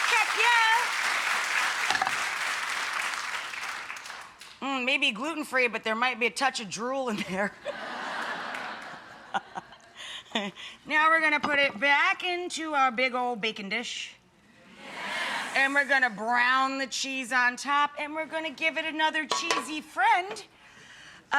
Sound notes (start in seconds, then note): 7.5 laughs; 7.6 audience laughs; 14.7 audience yells yes!